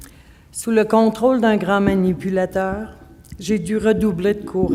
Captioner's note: speaking French